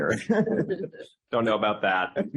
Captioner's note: laughs